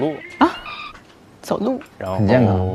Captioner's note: cracks up